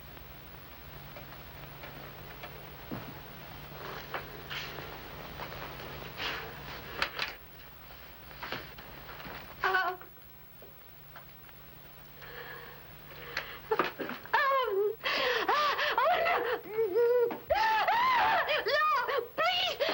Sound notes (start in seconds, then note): 14.6 yelling